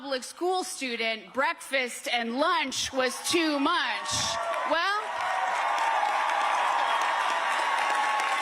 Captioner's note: cheers and applause